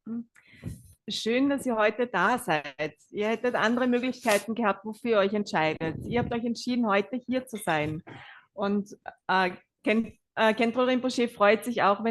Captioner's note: German live translation